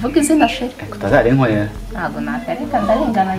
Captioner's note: singin; phone ring